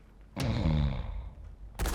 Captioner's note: both gasping; guard snoring; gunfire echoing distantly